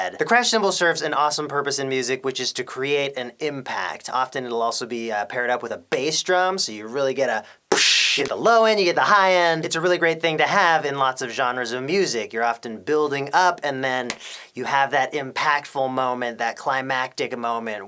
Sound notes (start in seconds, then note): 7.7 pssshhhh; 14.0 slap